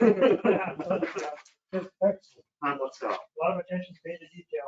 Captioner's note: they laugh